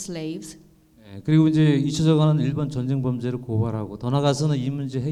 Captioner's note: speaking in foreign language